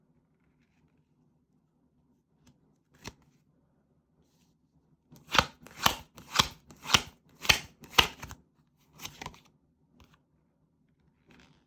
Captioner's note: drawing cards